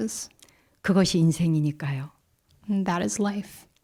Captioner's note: speaking in Korean